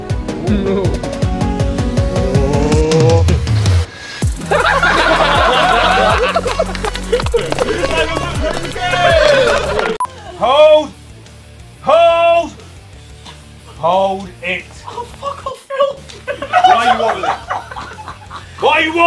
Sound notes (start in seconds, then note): 0.1 upbeat electronic music; 4.4 laughing; 6.0 clapping